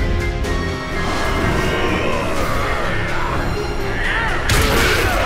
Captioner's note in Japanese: ｂボーイズたちのうなり声